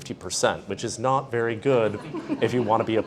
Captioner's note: all laughing